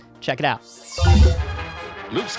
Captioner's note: robotic beeping